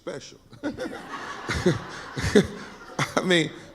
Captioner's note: laughing